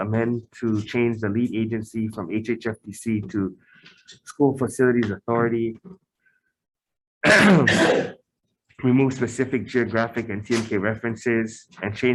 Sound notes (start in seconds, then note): 7.2 chair clears throat; 7.2 man coughs